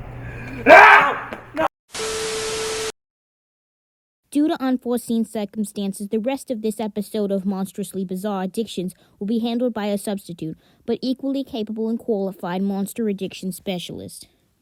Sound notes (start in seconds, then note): 0.3 host screams; 2.0 TV Error Sound